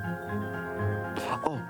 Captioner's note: bird chirping